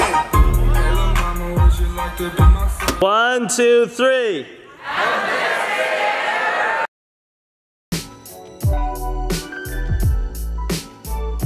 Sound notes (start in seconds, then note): 4.5 crowd; 7.9 upbeat music